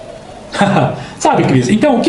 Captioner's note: laughter